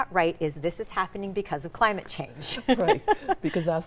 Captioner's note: chuckles